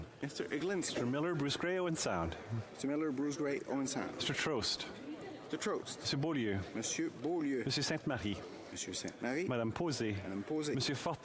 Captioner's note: speaking French